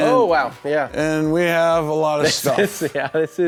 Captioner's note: laughter